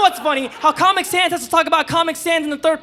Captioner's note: audience laughing